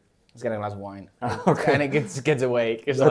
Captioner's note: laughs